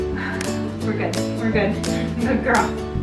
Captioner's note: sighs